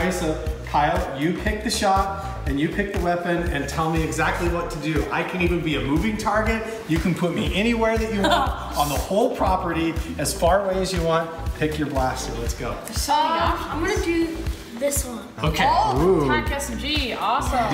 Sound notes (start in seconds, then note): 8.1 laughter